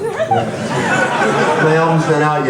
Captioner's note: laughs